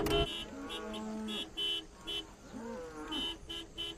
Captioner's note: car horn honks; cows moo